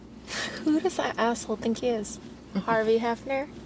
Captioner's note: chuckles